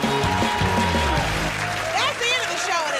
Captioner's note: cheers and applause